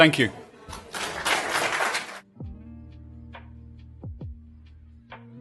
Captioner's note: applause